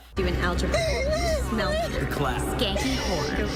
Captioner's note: Taylor crying